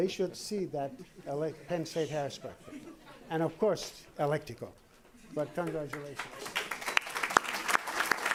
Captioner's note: applause